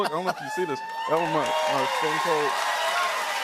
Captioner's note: cheers and applause